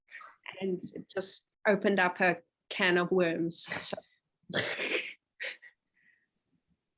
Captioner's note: chuckling